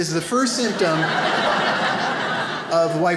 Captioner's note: audience laughs